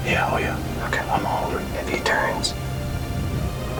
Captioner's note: whispering